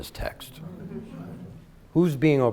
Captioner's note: light chatter